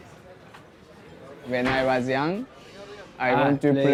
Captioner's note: in English